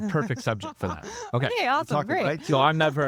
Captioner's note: laughing